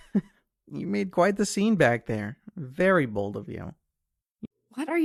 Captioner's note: chuckles